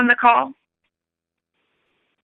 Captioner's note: silence